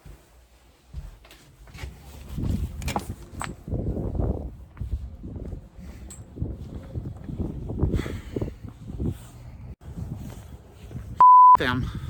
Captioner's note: wind outside rustling